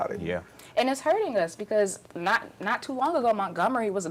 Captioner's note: murmurs of agreement from others